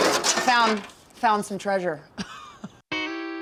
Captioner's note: chuckling